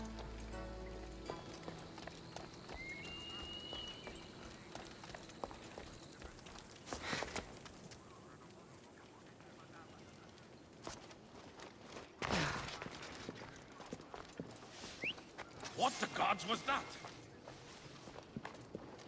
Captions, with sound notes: (whistle) What the gods was that!?